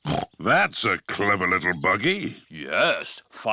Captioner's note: snorts